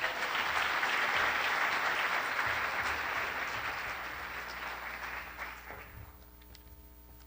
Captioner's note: applause